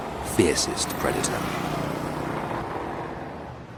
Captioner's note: engines rumbling